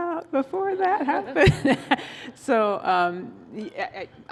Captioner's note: laughter